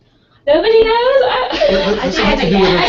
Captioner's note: laugh